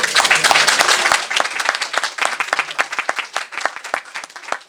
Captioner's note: applause